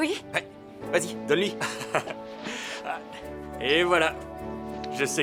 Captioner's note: laughing